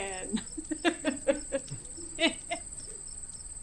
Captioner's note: all laughing